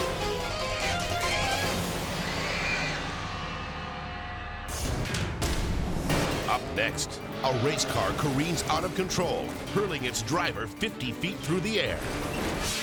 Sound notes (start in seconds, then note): 0.2 dramatic music; 2.0 boar squealing